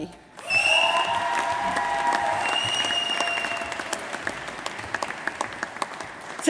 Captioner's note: applause